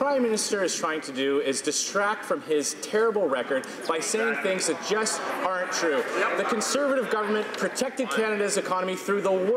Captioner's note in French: voix de l'interprte